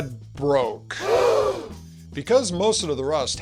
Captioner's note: audience awwww